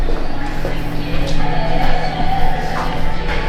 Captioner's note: engine Revving